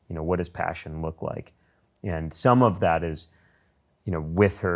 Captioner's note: none